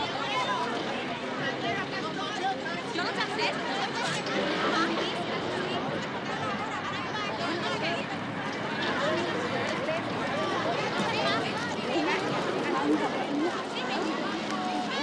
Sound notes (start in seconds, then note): 1.1 indistinct chatter